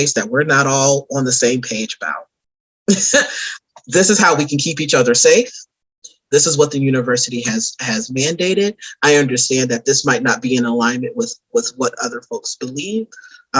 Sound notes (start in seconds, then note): 2.9 laughs